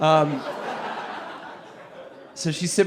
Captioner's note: audience laughing